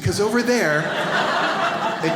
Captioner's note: audience laughs